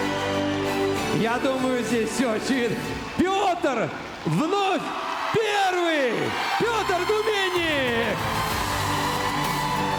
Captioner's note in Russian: крик